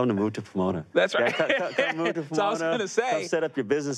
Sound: laughs

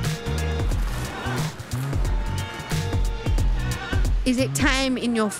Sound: wheels rumbling

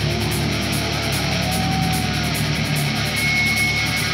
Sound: heavy rock music; crowd cheering

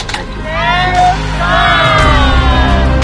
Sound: laughs

